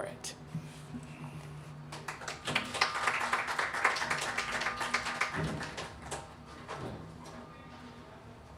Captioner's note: clapping